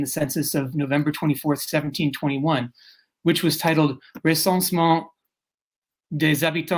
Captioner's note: speaking french